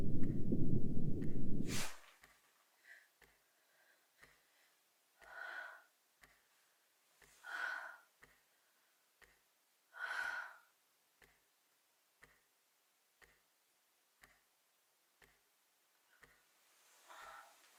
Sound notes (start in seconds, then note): 0.0 heart beating; 5.7 woman sighs; 9.7 clock ticking